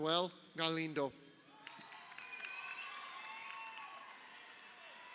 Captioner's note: crowd cheering